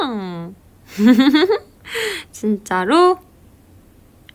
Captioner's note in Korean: 웃음